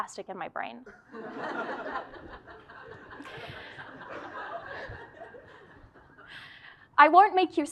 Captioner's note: laugh